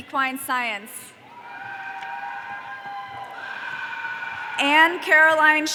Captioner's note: audience cheering